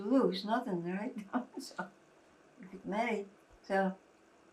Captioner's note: laughing